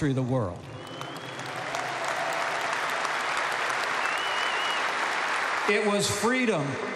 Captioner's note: applause